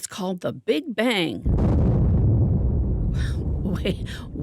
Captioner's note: boom